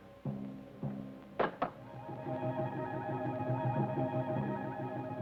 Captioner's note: rock clacks